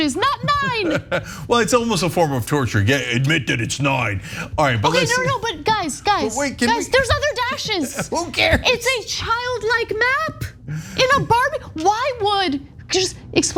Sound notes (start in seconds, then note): 0.0 laugh